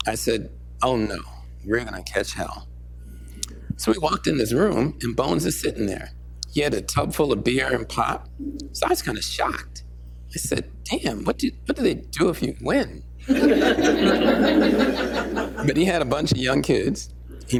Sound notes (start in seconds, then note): 13.2 laughter